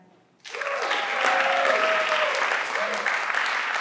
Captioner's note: everyone claps